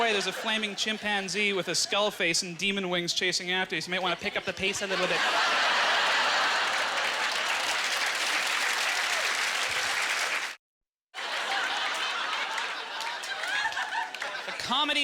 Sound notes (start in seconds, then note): 0.0 audience laughter; 8.0 audience laughter; 8.5 applause; 11.2 audience laughter